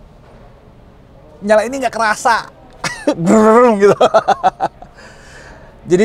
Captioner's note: laughing